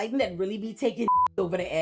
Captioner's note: beep